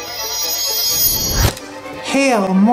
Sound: shimmering noises

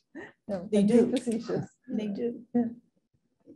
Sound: woman's Voice

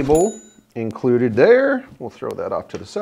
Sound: icon pinging

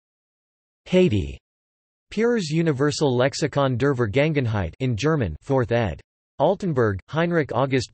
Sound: in German

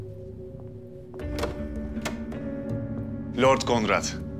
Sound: sound of door opening

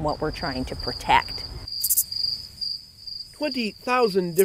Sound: crickets chirp

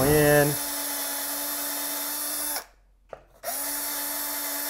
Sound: drilling sound

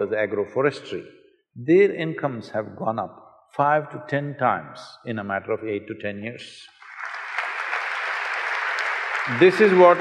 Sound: applause

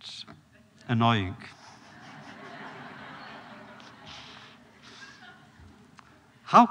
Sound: laughter

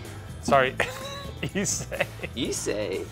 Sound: laughs

